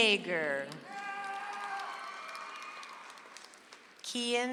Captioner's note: audience applauds